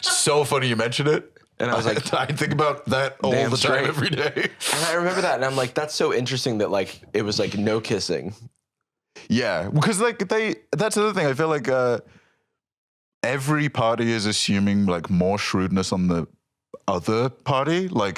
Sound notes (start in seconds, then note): 1.6 laughing